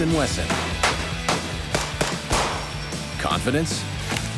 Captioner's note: gun fire